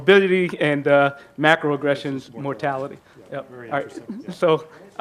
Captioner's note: faintly speaking